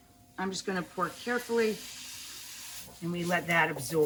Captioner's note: pan sizzling